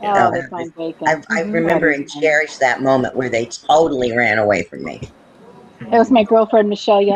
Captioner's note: laughs